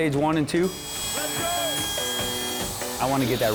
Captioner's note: sawing